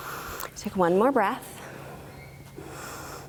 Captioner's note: inhaling